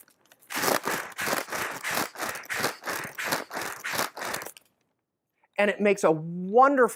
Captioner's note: breaths heavily into bag